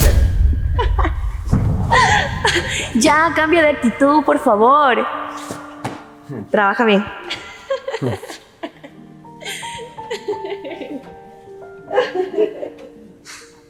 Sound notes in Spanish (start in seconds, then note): 11.8 risas